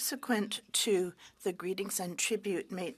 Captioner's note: speaking French